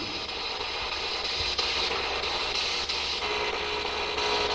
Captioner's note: static buzzing